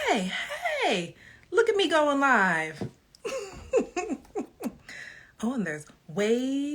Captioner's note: laughs